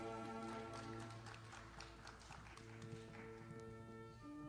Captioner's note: audience applauding